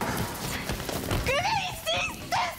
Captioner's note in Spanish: Golpes